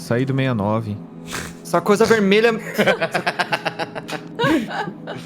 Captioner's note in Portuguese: Todos riem